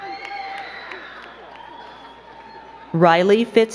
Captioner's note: crowd cheering and clapping